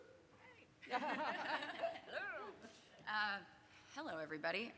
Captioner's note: laughter